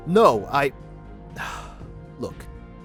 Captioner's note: sighs